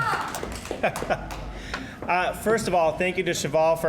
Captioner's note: applause; chuckling